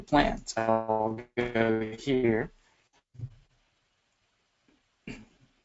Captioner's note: audio cuts off